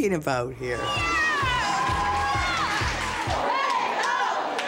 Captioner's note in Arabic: هتاف